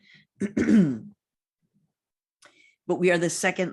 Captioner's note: clears throat